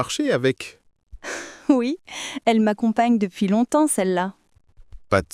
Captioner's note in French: rire